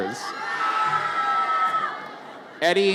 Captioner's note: audience cheers